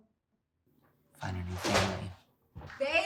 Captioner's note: door clicks